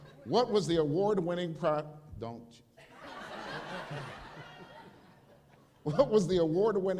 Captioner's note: laughter